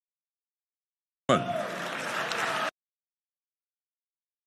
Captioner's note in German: Beifall